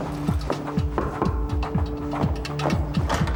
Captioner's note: energetic music; footsteps clomping; knuckles rapping; footsteps clomping